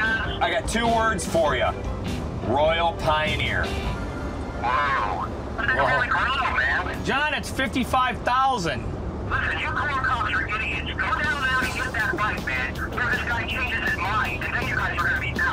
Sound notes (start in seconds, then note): 0.0 on phone; 4.4 on phone